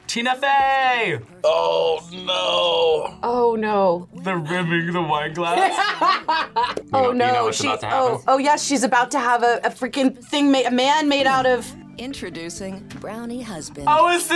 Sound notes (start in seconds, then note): 5.5 laughs